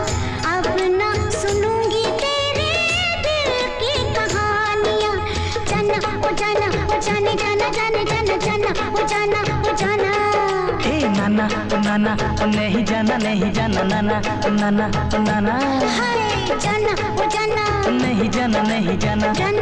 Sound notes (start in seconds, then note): none